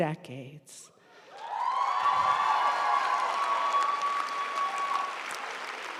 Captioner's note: audience cheering and applauding